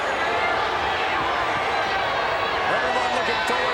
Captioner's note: crowd clamoring